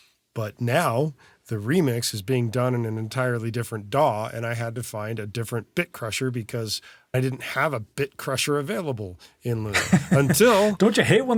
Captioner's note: laugh